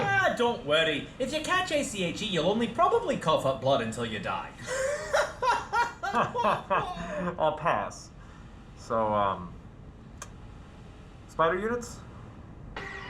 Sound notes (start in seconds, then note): 5.0 hearty guffaw; 6.9 polite, tired guffaw